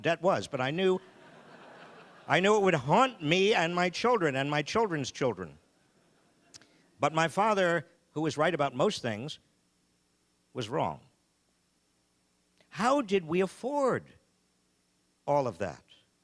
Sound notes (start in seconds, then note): 2.7 audience laughing